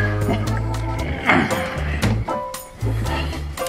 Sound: grunts

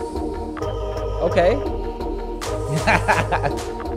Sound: laughs; instrumental music

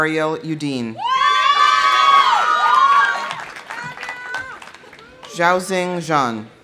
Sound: audience cheering; audience applauding

